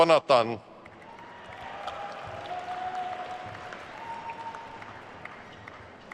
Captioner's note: attendees cheering and applauding